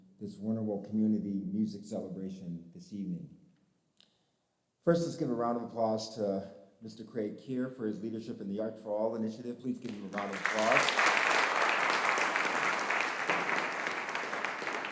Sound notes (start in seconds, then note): 9.8 audience applauding